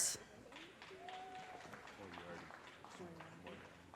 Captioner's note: audience cheers and applause